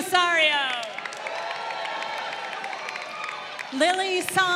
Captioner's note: crowd cheering